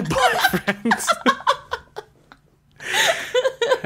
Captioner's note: laughs